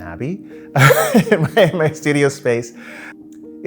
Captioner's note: laughs